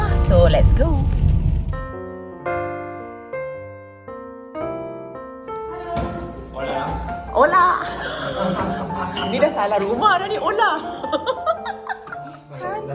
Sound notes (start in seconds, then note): 3.6 background music; 7.7 laugh